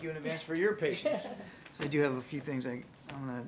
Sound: laughs

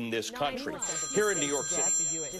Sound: phone rings

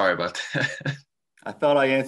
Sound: laughing

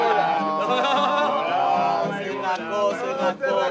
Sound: laughs

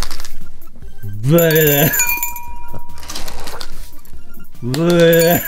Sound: spitting skittles in glass

